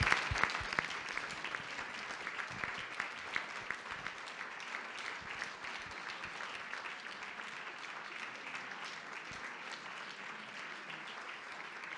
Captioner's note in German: Applaus